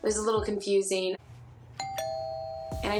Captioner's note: rings doorbell